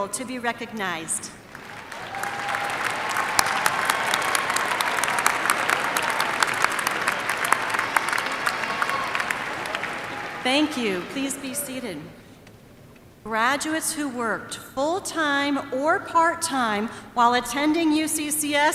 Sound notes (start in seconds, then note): 7.7 applause